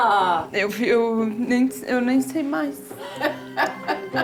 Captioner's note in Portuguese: voz emotiva